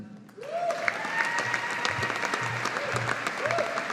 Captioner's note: audience applauding